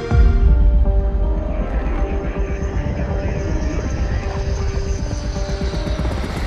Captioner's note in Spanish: sonido de avión